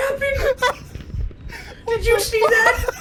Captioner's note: uncontrollable laughter